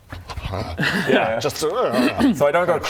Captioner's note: erghrgh